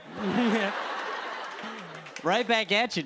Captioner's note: chuckles